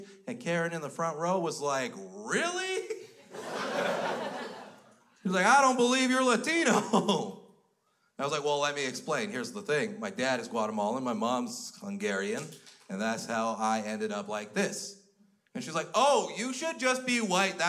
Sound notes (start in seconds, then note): 3.0 crowd laughs